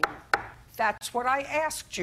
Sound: taps desk

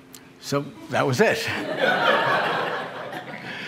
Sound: laughter

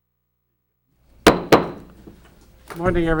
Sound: gavel banging

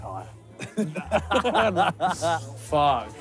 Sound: laughing

